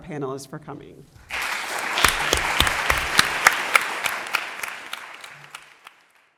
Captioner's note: applause